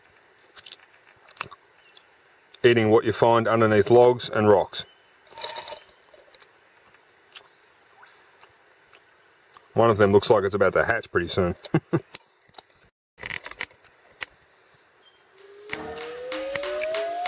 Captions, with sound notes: eating what you find underneath logs and rocks. One of them looks like it's about to hatch pretty soon. (laughs)